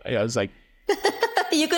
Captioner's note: laughing